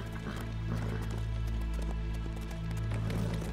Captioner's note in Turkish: At kişneme sesi